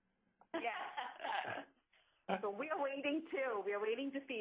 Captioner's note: laughing